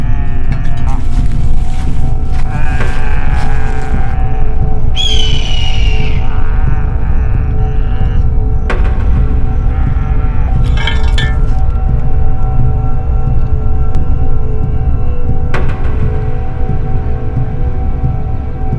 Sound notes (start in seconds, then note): 2.0 cannibal Growls; 10.6 metal sound